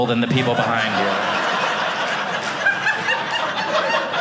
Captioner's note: audience laughing